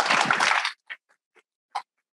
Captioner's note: audience applauding